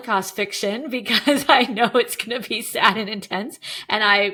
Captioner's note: chuckling